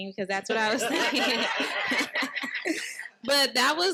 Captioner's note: participants laughing